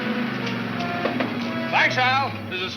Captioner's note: tapping on window